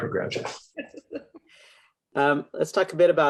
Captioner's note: laughs